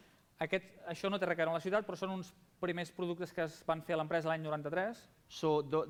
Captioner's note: non-english speech